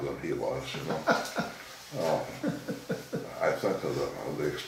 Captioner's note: laughing